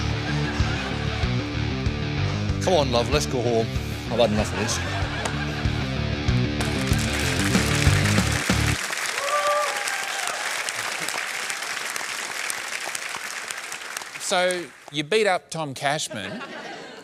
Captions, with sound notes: Come on, love, let's go home. I've had enough of this. (APPLAUSE) Um, so you beat up Tom Cashman.